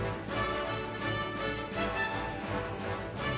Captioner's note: none